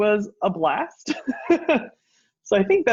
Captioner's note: laughs